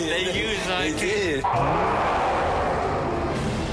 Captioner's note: roars